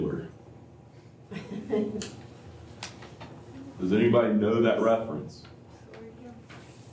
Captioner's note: laughter